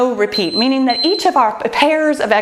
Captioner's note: timer beeps